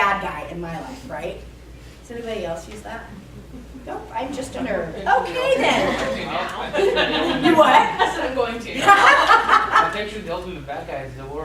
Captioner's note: laughter